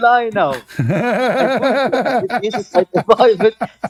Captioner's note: Ketawa